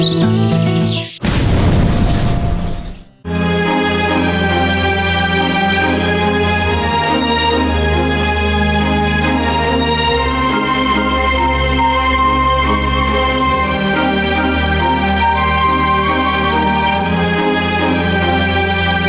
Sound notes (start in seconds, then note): 1.3 fire whooshing; 3.5 melancholy music